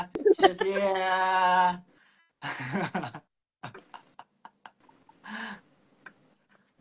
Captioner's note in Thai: เสียงหัวเราะ